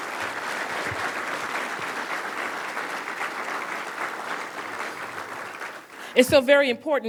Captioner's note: applause